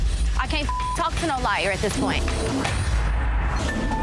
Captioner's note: beep